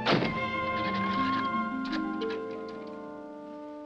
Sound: key scratching lock

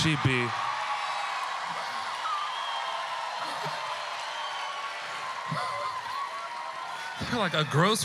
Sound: audience cheering

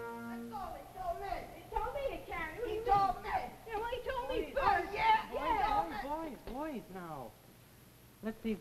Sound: children argue

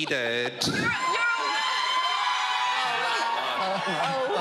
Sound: audience cheers

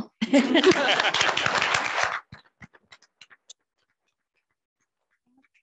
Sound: audience applauding

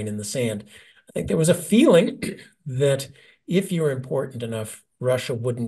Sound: cough

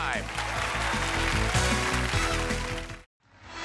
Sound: cheers and applause

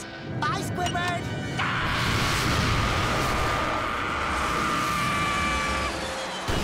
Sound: screaming

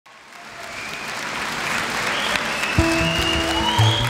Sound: audience applauds

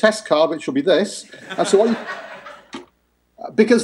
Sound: laughter

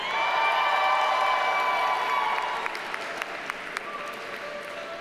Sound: audience cheers and applauds

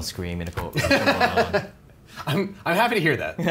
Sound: laughing

